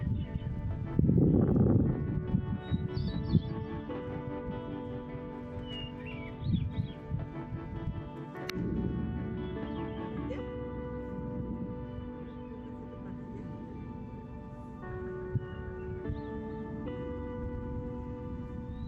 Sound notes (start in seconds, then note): 5.0 wind blowing